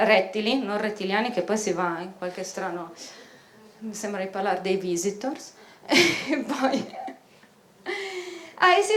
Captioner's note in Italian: risata